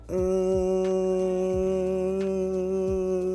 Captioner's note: hums